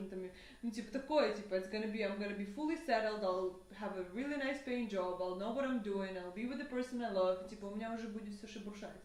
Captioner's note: speaks in broken Russian